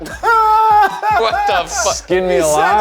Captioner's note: laughs